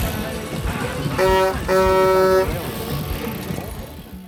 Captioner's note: horn honking; upbeat music continues